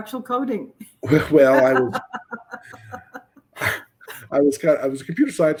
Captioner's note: laughs